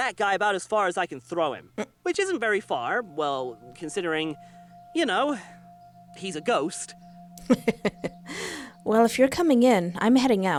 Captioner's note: laughter